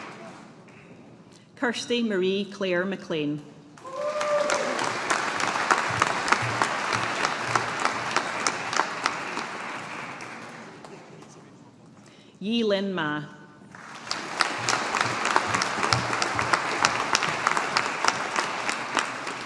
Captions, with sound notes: Kirsty Marie Claire MacLean. (AUDIENCE APPLAUDING) Yi Lin Mah. (AUDIENCE APPLAUDING)